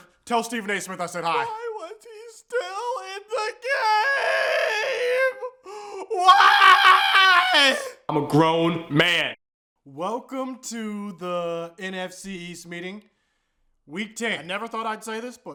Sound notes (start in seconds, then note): 2.5 crying